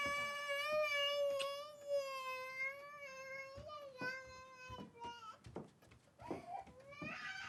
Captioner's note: crying